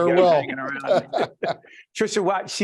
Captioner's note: laughing